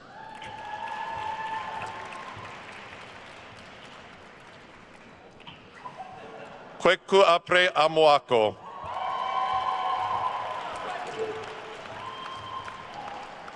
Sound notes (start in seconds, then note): 0.0 attendees cheering and applauding; 5.8 attendees laughing; 8.6 attendees cheering and applauding